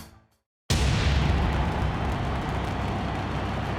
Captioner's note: fireworks roar